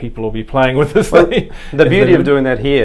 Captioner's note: laughing